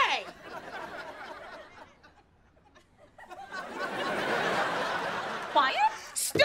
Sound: audience laughing

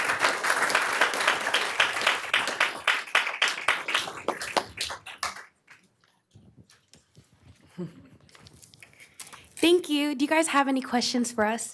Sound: applause

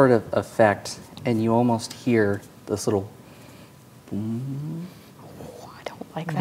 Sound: hums

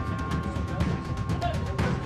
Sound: laughing

